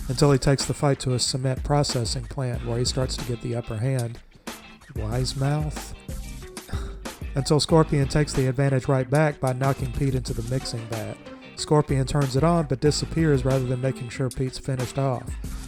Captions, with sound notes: until he takes the fight to a cement processing plant, where he starts to get the upper hand "Wise-mouth"?? *ugh* until Scorpion takes the advantage right back by knocking Pete into the mixing vat. Scorpion turns it on, but disappears rather than making sure Pete's finished off.